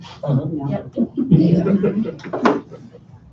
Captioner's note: laughter